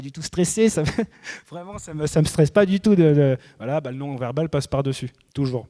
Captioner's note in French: rires